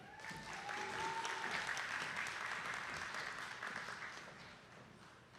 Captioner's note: attendees clapping